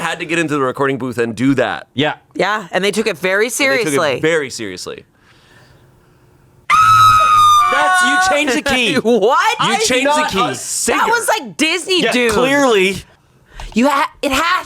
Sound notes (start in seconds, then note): 6.7 screams